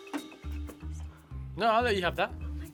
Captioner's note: whispers